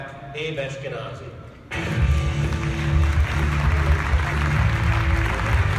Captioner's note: applause